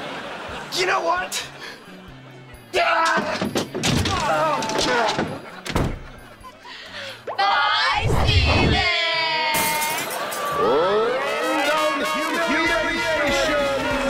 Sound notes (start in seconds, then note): 2.3 grunting